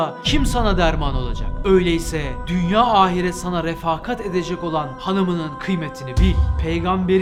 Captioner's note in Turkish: Gümleme sesi; Gümleme sesi